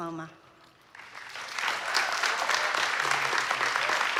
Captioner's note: applause